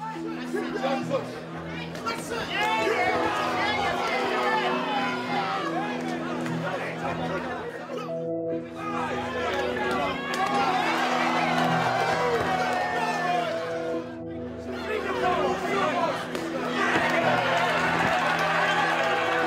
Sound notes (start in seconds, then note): 0.2 crowd shouting; 11.4 crowd cheering; 16.2 cheering and clapping